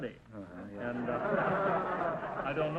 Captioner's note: audience laughter